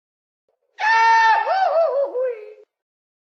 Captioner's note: yelling